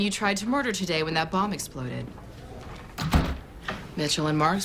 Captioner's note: door closes